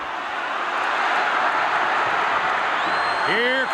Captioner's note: crowd cheers